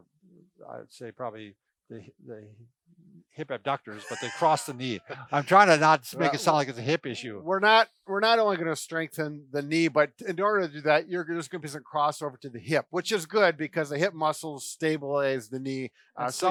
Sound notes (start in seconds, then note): 3.6 laughing